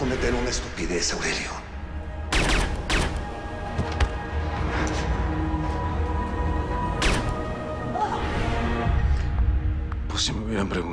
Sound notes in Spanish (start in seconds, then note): 2.3 Disparos; 7.0 Disparo; 7.9 Quejido